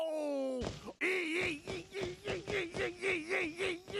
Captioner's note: yelping